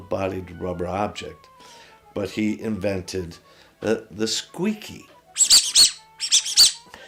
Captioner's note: duck squeaks